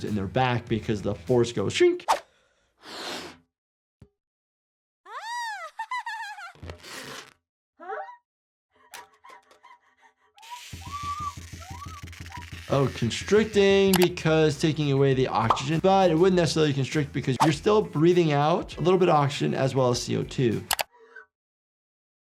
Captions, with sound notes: because the force goes shwink. (Cub laughs) - Huh? (Cub screams) - Oh, constricting because taking away the oxygen, but it wouldn't necessarily constrict because you're still breathing out a little bit of oxygen as well as CO2.